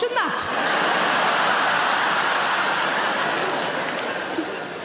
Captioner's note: audience laughing